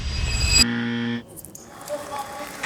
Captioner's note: buzzer